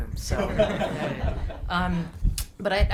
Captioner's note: group laughing